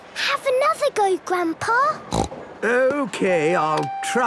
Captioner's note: snorts